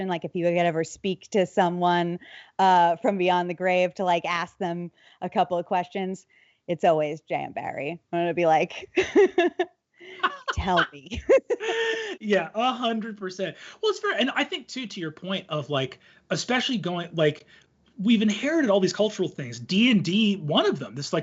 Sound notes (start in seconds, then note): 10.1 laughs